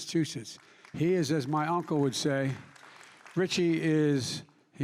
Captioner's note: applause